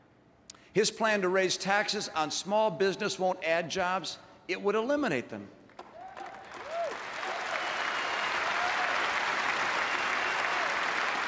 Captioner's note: applause